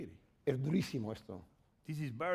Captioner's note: speaking spanish